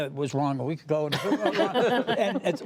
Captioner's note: laughter